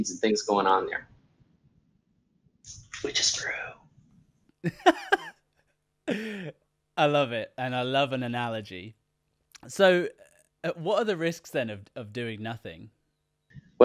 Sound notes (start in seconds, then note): 4.6 laughs